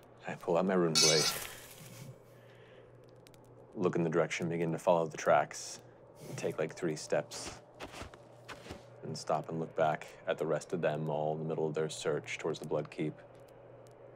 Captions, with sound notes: I pull out my runeblade, (clinking of metal) look in the direction and begin to follow the tracks, take like three steps (footsteps) and stop and look back at the rest of them all in the middle of their search towards the Bloodkeep.